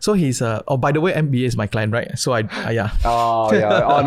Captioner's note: chuckles